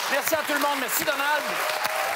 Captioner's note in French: cris et applaudissements